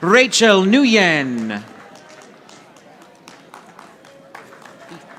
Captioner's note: audience applauding